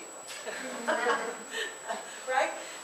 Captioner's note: laughter